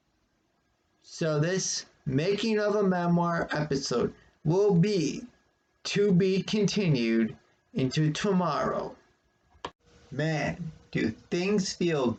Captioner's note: click